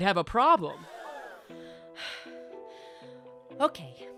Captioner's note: breathing loudly